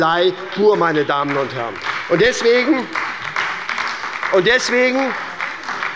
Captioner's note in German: Beifall bei der SPD